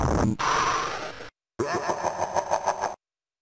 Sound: evil laugh in the distance

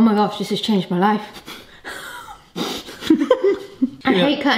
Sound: both chuckling

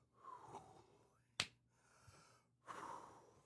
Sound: exhaling

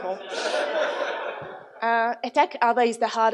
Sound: audience laughs

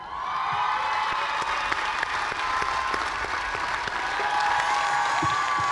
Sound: cheers and applause

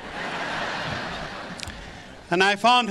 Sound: audience laughs

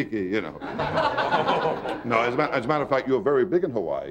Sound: audience laughing

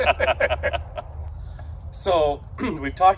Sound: laughs

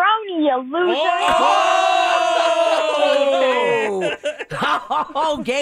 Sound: laughing

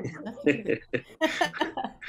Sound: laughter

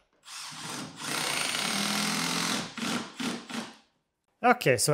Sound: drill whirring

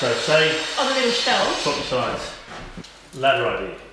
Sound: grinder squealing drowns out speaker

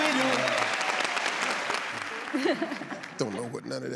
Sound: audience cheers

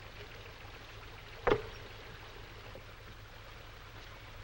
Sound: shoes thudding

